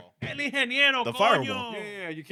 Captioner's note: speaking In Foreign Language